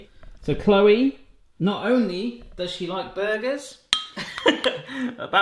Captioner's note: laughing